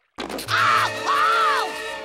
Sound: screaming

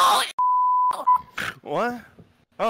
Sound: snort

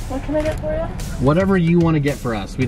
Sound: woman In Speakerphone

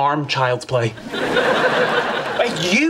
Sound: audience laughing

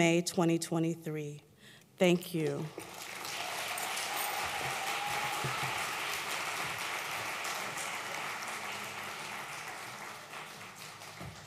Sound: applause

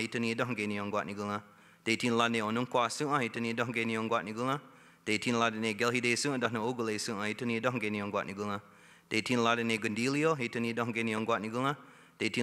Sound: speaking Indigenous Language

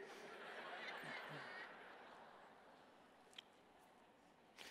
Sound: congregation laughs

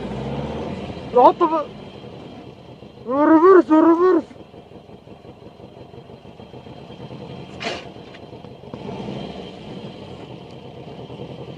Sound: man shouting in other language

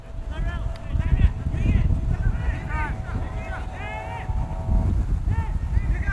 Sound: players talking and yelling

